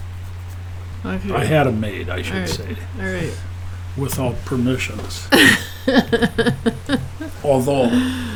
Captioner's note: chuckling; me chuckling